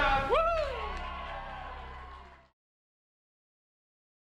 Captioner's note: cheering